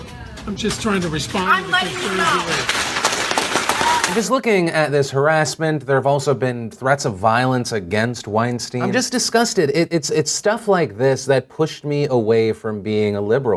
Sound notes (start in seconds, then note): 1.8 clapping